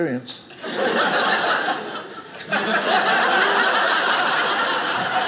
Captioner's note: audience laughing